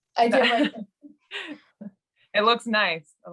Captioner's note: laughs